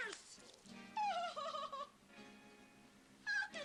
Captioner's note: whimpers